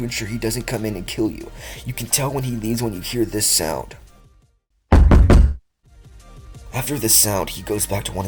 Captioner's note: knocking